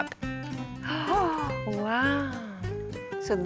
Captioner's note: gasps